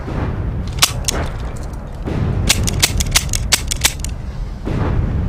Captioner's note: gun clicking